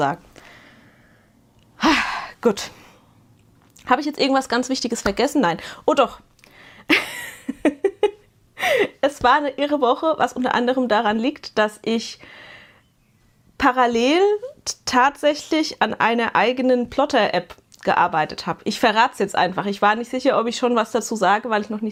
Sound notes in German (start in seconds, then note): 6.9 gelächter